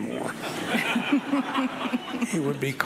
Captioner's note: audience laughing